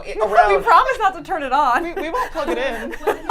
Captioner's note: laughs